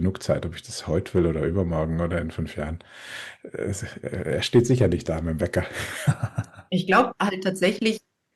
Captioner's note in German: gelächter